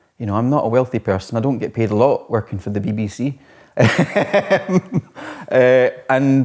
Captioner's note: laughs